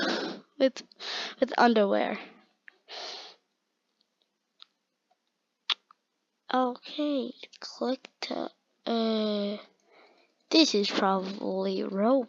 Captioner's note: click